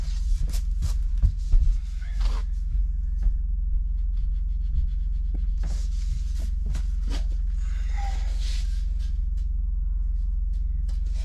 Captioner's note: footsteps